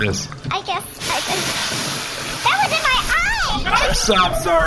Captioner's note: C-53 sprays oil